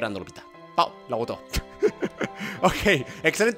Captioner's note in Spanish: ríe